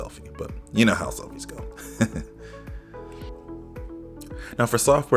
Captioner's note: laughs